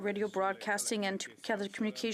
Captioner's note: speaking French